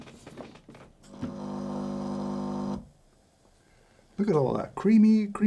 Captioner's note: machine brewing